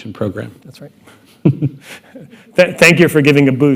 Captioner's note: laughter